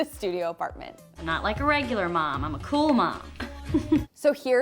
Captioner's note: laughs